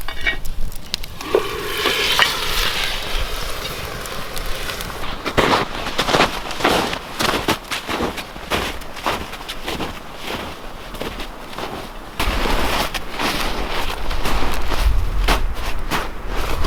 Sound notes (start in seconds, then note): 1.0 steam hissing; 5.6 snow crunching; 13.8 wind whistling